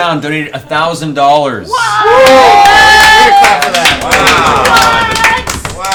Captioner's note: all cheer loudly